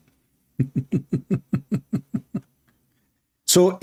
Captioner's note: Ketawa